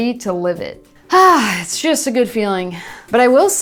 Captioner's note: sighs